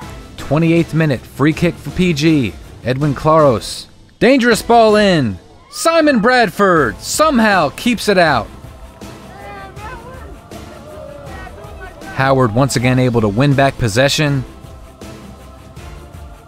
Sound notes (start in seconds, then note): 9.0 crowd cheers